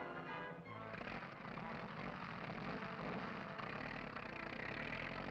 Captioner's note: motorcycle engine revving